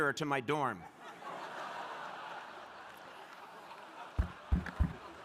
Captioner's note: crowd laughing